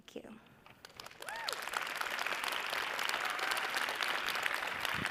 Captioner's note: audience applauds